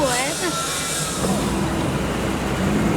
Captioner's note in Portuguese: Sons de automóveis